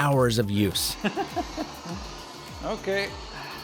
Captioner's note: laughs